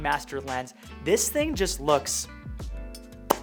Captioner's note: lips popping